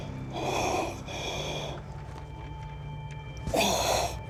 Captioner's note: breathing through mask